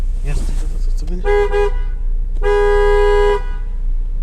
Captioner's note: horn